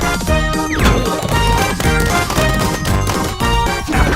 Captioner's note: flower pot banging rapidly